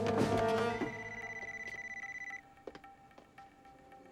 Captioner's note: beeping